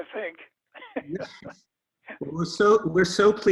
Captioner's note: chuckles